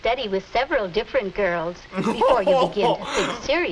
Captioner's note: laughs